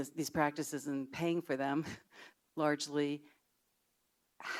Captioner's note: chuckles